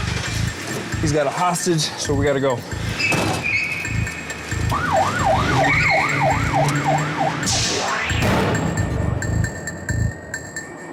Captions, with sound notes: [engine turns] He's got a hostage, so we got to go. [tires squeal] [siren wailing]